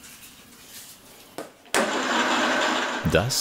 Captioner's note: humming rattle